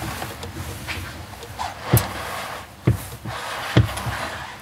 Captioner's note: creaking; scuffing noise